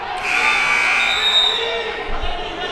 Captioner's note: buzzer buzzes; whistle blows